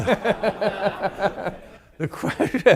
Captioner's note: laughter